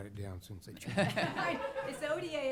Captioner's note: laughter